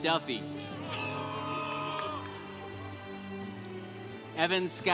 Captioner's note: congregation applauding